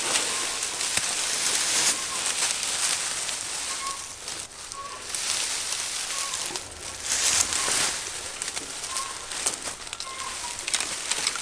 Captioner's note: leaves rustling